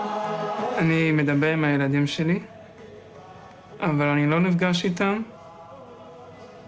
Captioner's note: young man speaking in foreign language